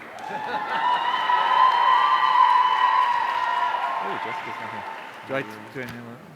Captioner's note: audience cheering; laughs